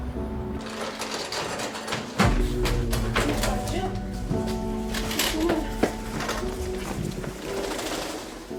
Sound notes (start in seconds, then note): 0.5 wheelchair clattering; 1.5 gentle music